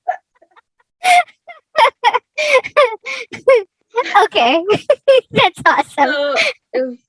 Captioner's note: laughs; laugh; still laughing